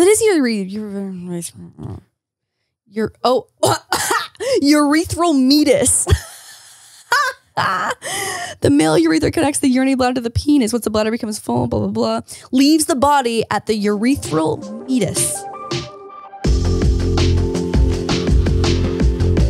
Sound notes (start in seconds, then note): 3.8 gasps; 6.0 laughing; 15.3 upbeat music